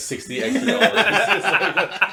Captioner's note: laughing